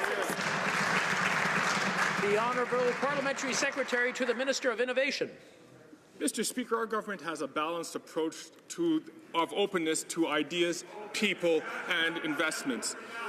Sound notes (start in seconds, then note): 3.8 some Applause